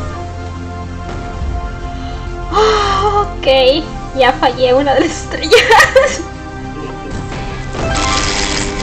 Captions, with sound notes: [big sigh] Ok I lost a star [laughs]